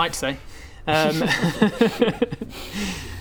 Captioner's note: cheeky giggles